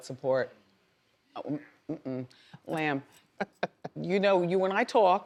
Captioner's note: woman laughs